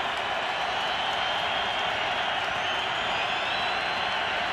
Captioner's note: cheering